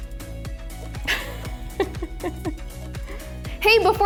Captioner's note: laughs